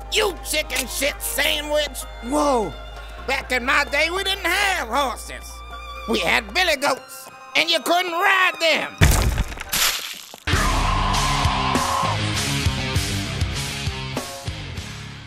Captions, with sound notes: You chicken-shit sandwich! Woah. Back in my day we didn't HAVE horses. We had billy goats. And you couldn't ride them. *RAAAAAAAAAAAAAAAAAAAAAAAAAAAAA!!!!!*